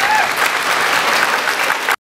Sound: applause

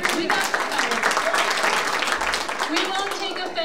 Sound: audience applauding

